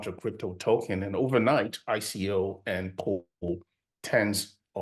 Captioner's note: voice cuts out